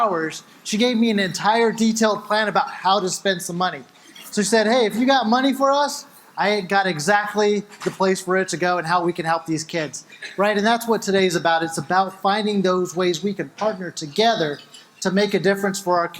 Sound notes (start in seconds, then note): none